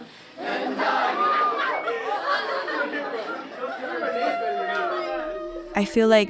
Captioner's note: laughter